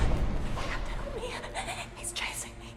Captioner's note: loud sinister music; shivers